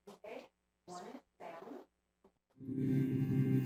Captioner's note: speaking faintly; dramatic music